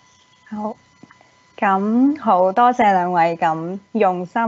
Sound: Cantonese

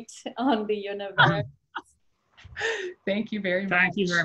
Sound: laughter

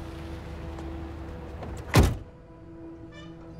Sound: door closing; dramatic orchestral music; door closing

